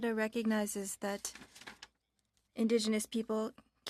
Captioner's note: speaking french